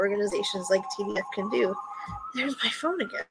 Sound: phone rings

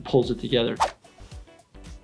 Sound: wire whipping

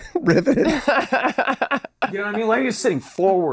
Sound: laughing

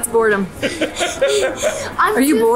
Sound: laughing

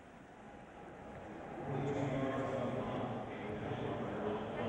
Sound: stadium announcement

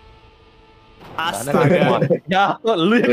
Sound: in indonesian

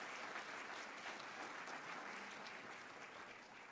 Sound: applause

